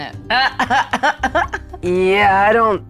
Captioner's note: chuckles